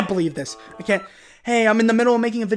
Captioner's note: beep